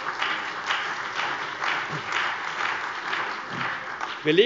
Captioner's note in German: Beifall bei der CDU und dem BÜNDNIS 90/DIE GRÜNEN